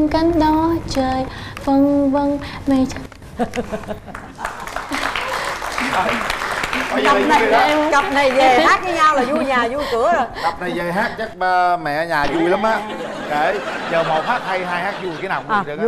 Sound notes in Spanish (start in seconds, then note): 4.1 Aplaudir